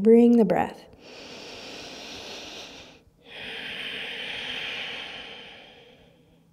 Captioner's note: deep inward and outward breath